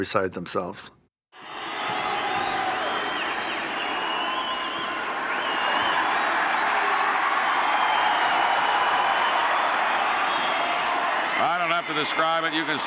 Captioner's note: applause